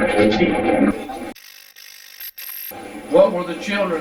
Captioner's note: static fizzing